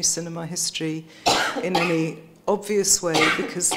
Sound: coughs

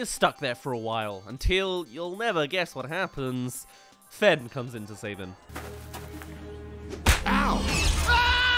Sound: slap* AHHH!

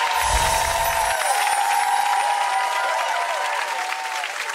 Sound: audience clapping; electronic chimes

